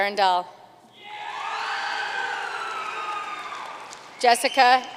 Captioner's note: audience cheering and applauding